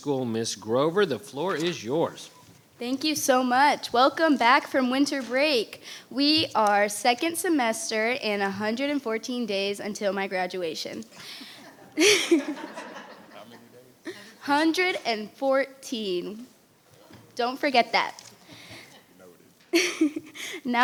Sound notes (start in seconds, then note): 11.6 audience laughing; 19.7 laughing